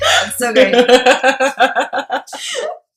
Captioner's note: laughter